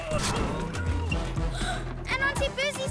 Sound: gasps

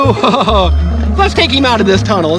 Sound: laughing

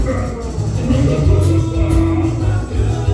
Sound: Admiral Ork Laughs

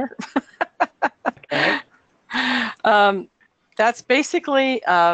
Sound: laughing

